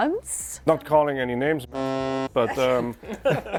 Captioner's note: buzzer buzzes